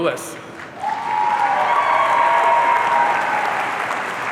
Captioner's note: audience cheering